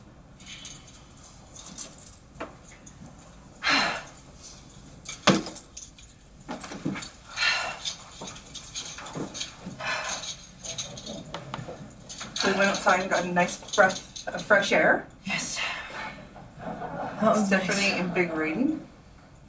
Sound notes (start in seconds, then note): 3.6 huffs; 5.2 thumps bag down; 7.3 takes steadying breaths